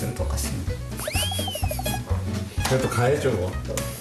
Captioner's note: laughs